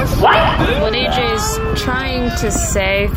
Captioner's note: AJ continues crying